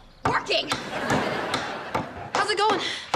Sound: thudding

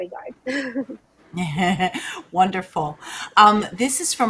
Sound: laughs

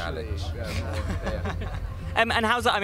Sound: laughing

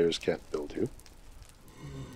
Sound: blaze oohs and crackles

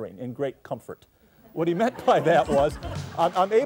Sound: laughing

